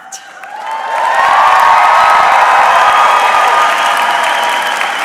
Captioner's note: audience cheering